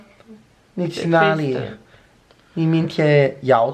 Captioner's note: in Mandarin